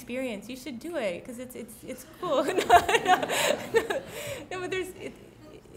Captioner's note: laughs